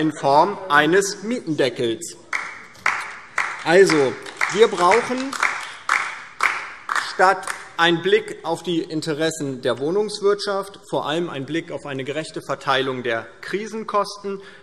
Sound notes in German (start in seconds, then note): 2.2 Beifall DIE LINKE